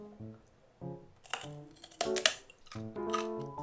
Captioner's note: crunch crunch